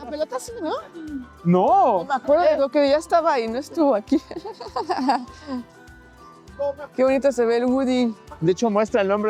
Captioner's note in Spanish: risas